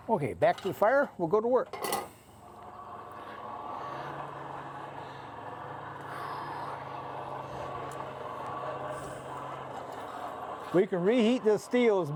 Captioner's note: whirring